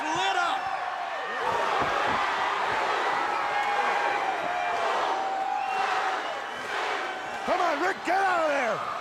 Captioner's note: crowd cheering